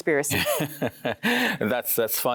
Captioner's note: laughs